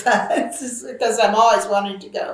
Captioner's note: laughs